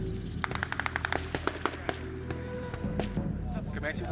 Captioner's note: gunshots